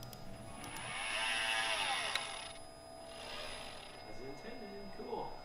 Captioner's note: winding sounds